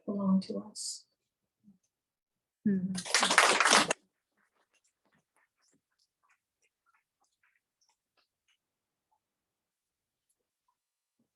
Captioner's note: applause